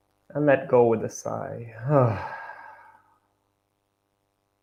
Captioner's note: sighs